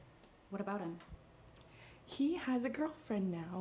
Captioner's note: none